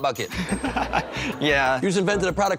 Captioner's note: laughs